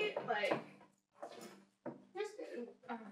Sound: foot steps

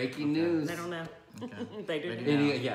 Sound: laughing

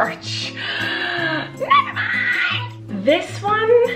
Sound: gasps

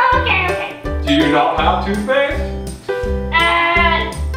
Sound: voiceover

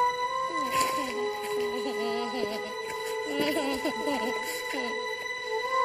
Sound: Michael whines, whimpers

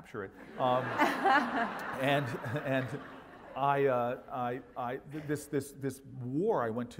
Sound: laugh

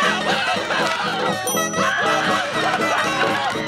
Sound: screaming; ding; screaming

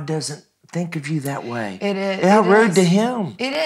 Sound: everyone laughing

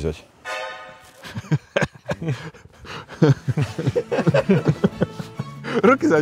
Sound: laughing

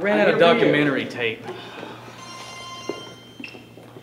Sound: ringing

